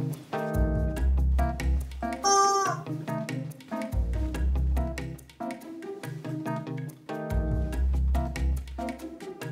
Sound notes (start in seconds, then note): 2.2 rubber chicken squeaks